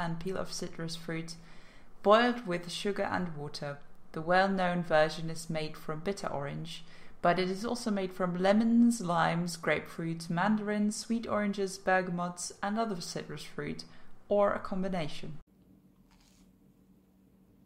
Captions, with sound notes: peel of citrus fruit boiled with sugar and water. the well-known version is made from bitter orange but it is also made from lemons, limes, grapefruits, mandarins, sweet oranges, bergamots and other citrus fruit or a combination. *crunch*